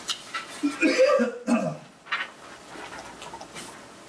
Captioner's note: coughs